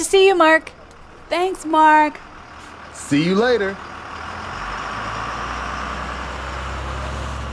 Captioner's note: sound of bus leaving